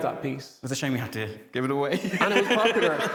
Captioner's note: laughs